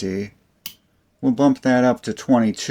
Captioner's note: click